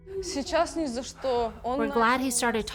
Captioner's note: speaking in foreign language